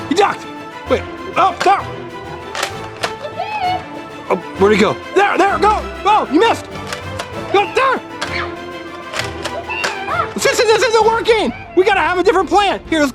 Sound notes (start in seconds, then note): 2.3 clucks